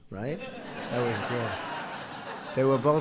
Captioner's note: laughter